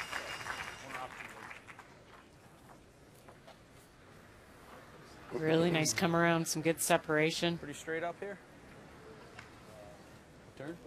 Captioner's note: applause